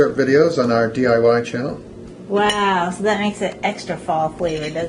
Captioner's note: none